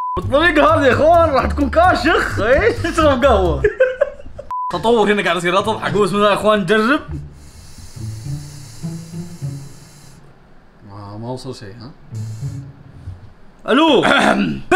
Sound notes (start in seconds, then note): 3.5 laughs; 7.0 sucking; 14.1 clears throat